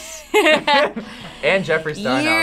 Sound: both laugh

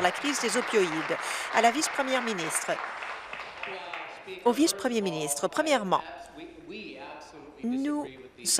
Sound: applause

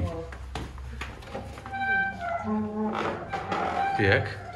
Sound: door creak

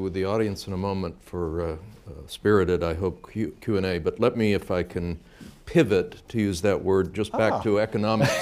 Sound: laughter

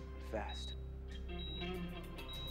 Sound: beeping

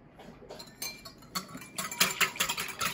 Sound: whisking

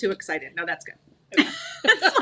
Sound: chukcles

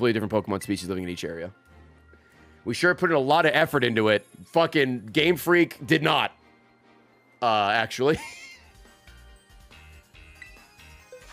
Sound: laughs

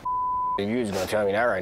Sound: beep

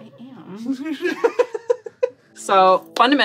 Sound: giggles

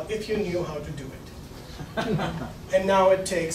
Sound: laughing

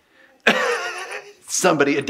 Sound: laughter

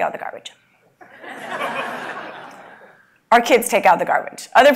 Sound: laugh

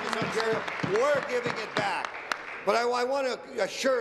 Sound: applause

